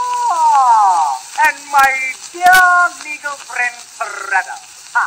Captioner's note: recording Plays